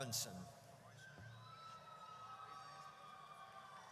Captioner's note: audience cheers